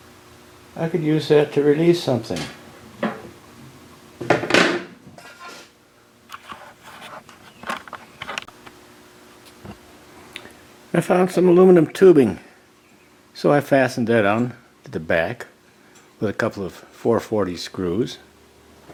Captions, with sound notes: I could use that to release something [ rod bangs against table saw ] I found some aluminum tubing so I fastened that onto the back with a couple of 4-40 screws